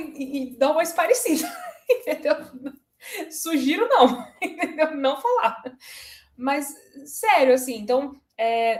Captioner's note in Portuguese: risadas